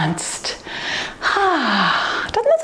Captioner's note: exhales softly